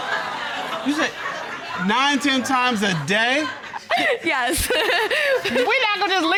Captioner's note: audience hooting, laughing; chuckles